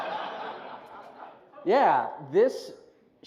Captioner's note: laughter